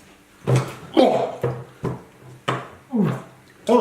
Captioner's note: laughing